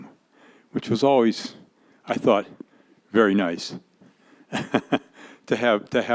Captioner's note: laughs